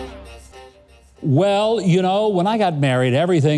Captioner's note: none